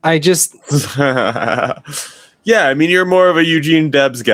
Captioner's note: laughing